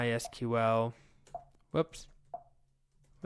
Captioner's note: keyboard typing